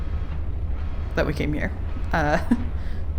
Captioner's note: laughs